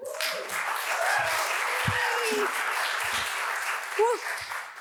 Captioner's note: audience applauds